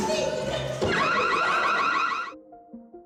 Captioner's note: alarm siren